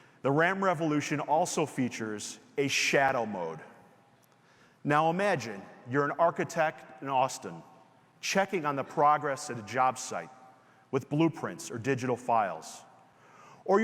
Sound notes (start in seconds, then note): none